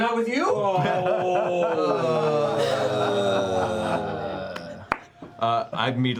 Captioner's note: groaning